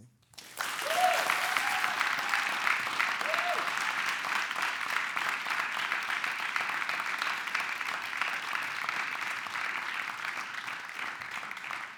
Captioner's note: clapping